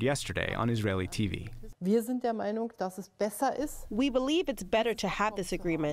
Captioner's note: through translator